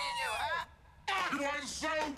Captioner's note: chattering